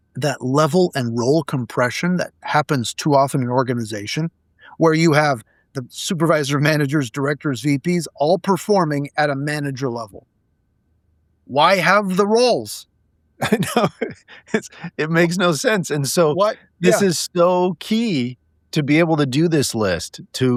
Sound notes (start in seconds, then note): 13.4 laughing